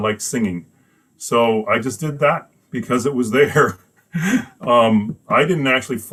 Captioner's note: laughs